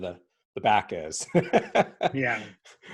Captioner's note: chuckling